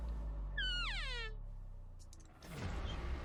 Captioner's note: elk call